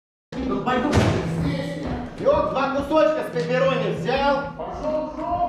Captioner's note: men speaking in foreign language